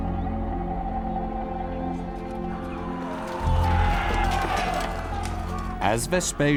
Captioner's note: soldiers yelling; weapons clanking